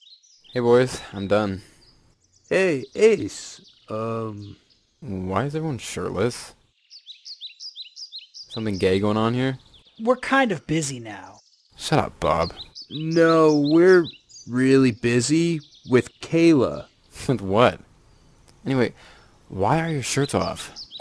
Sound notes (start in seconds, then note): 6.8 birds